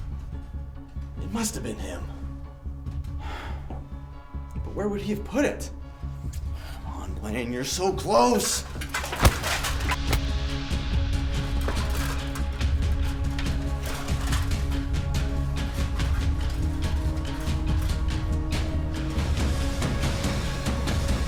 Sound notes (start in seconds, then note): 0.1 suspenseful music; 3.2 sighs; 8.9 rock thuds; 9.2 dramatic music